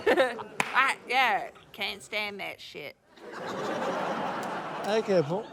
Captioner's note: laughter